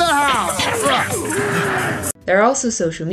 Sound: sword whooshing noises

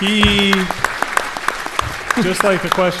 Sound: audience applauds

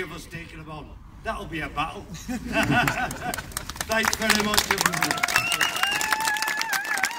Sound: laughter

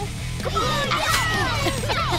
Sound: cheering

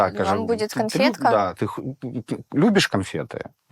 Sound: says in Russian

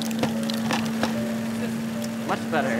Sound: electrical buzzing

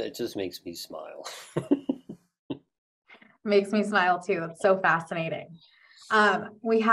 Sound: laugh

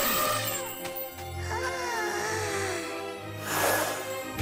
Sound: gasping

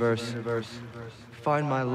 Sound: echoing

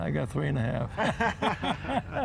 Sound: laughter

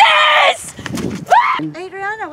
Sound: screams

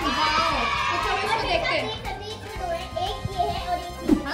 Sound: applause

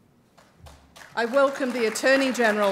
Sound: applause

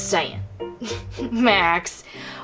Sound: giggling

